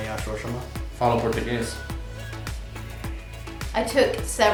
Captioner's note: speak foreign language